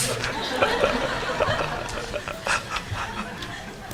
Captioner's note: audience laughs